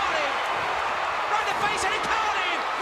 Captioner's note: crowd cheering